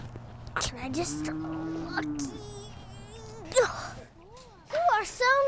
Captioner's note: grunting